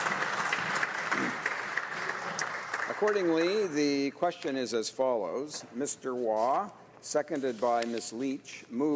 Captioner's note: applause